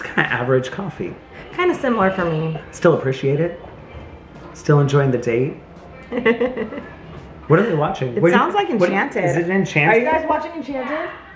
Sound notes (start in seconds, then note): 6.0 chuckles